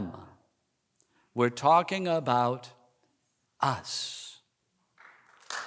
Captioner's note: applause